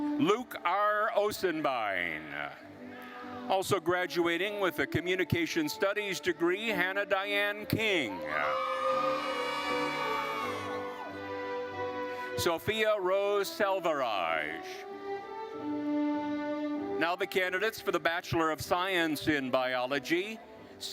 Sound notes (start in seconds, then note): 8.0 attendees cheering; 14.7 gentle classical music continues